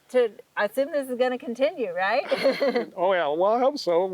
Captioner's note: laughing